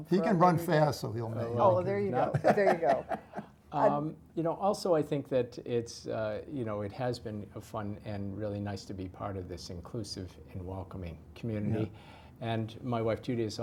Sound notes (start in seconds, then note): 2.2 laugh